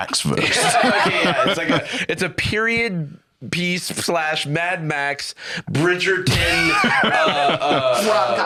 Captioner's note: laughs